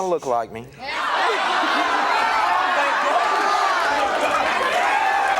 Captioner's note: audience laughing